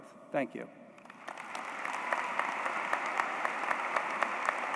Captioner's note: applause